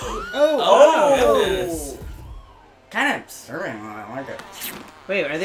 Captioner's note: the group exclaims in shock